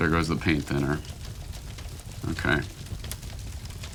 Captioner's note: crackling intensifies